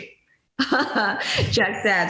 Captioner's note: laughs